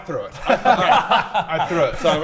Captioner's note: laughs